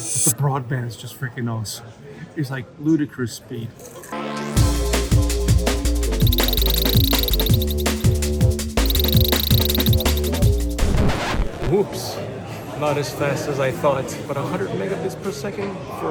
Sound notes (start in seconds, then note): 6.1 rapid digital ticking; 8.4 rapid digital ticking continues; 10.8 abrupt record scratch